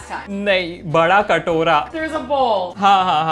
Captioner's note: speaking in Hindi